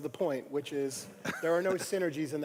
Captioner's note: laugh